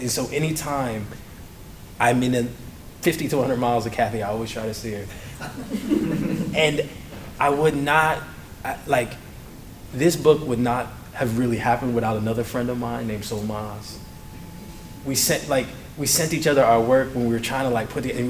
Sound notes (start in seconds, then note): 5.4 laughter